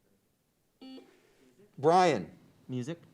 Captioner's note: buzzer beeps